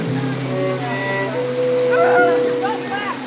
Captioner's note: screams and laughs